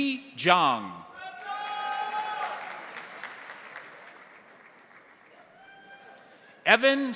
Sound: crowd cheering; crowd applauding

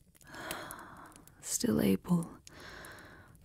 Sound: gasping softly as you caress her

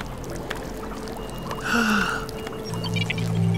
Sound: gasps

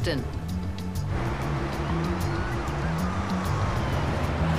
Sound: siren wailing

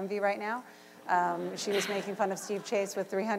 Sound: laughter

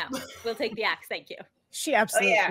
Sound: chuckles

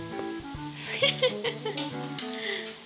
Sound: laugh

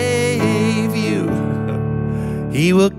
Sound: chuckling

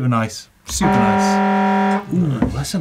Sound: horn honking

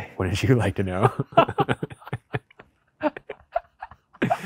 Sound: both laughing

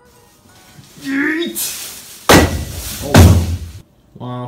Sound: bang... bang

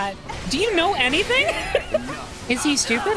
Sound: laughter

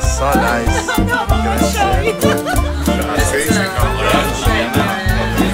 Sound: laughs

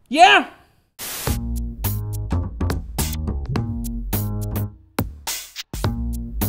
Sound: static hissing; jazzy music

